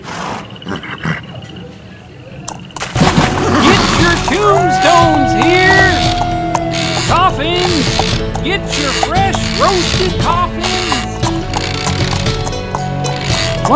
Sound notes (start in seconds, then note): 0.0 man burps; 0.0 horse nickers; 2.8 water splashes; 3.3 horse neighs